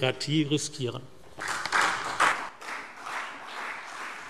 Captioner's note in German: Beifall CDU und BÜNDNIS 90/DIE GRÜNEN